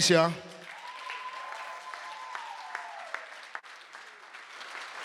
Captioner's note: audience applauding